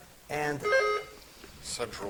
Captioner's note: buzzer chiming